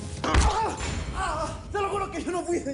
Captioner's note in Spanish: Quejidos